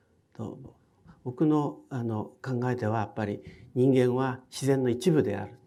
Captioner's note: speaking in foreign language